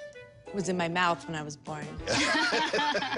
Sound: laughs

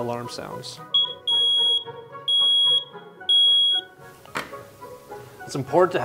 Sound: smoke alarm

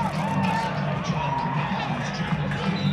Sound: cheers

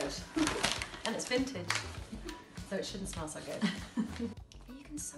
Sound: laughs; laughs

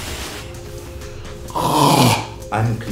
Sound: choking

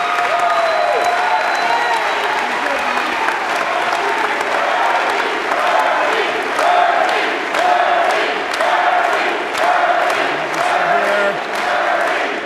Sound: Crowd chanting: Bernie, Bernie, Bernie

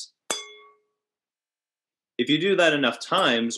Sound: wineglass tapping

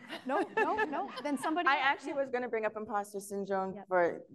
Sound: laughs

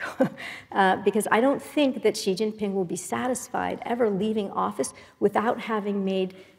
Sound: laugh

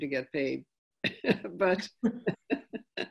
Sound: laughing

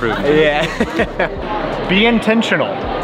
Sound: laughs

